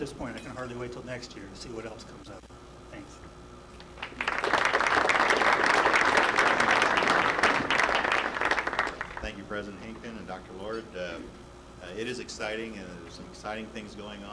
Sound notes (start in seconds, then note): 3.9 audience applause